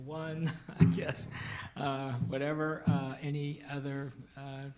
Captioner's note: laughing